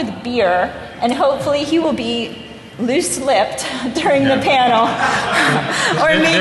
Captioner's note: laughter